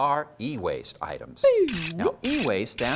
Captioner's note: cranking noises!